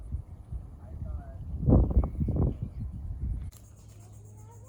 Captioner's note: wind blowing